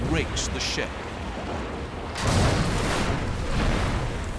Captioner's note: explosion